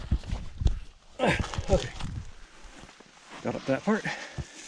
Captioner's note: sighs